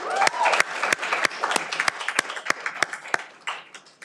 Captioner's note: cheering